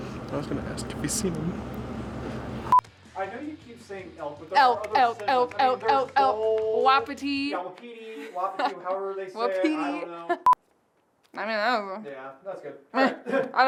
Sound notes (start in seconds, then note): 11.8 in gibberish